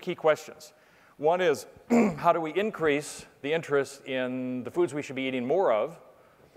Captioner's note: cough